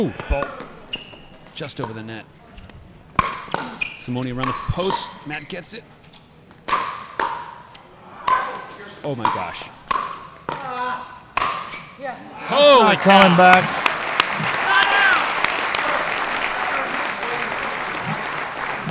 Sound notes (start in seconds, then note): 6.6 ball bouncing; 10.9 player groaning; 12.6 audience applauding